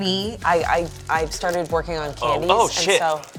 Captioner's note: stammering